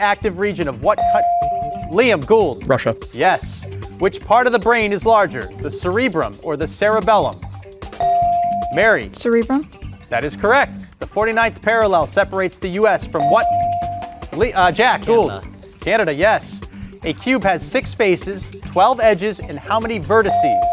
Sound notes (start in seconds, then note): 8.0 bell ringing; 13.2 bell ringing